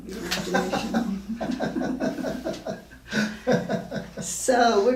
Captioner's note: laughing